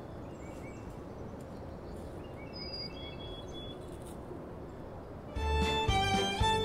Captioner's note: birds continue chirping; leaves continue rustling; bright playful music